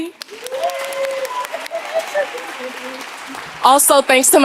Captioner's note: audience applauding